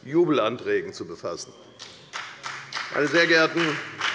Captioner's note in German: Beifall bei der FDP